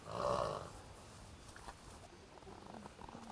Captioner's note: horse chuffing